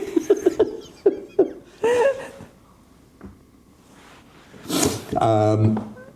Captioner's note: laughing